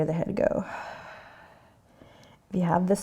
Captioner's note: exhaling